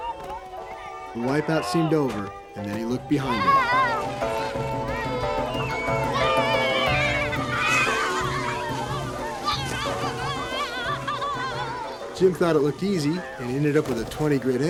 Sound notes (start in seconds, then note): 3.4 shouting, squealing